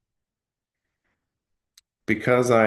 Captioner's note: pause